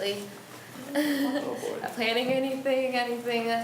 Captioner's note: laughs